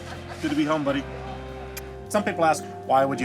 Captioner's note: lips smacking